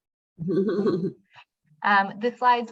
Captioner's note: giggling